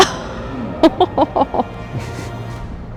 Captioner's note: laughs